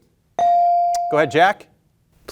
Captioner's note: bell ringing